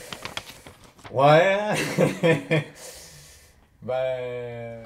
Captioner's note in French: rires